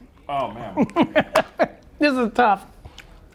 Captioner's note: laughs